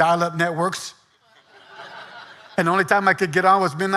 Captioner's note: audience laughing